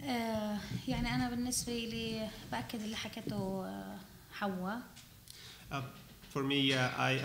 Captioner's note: speaking arabic